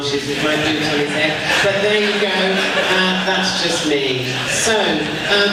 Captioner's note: audience laughs